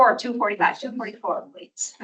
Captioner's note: chatter